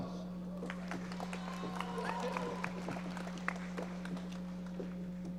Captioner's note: audience applauding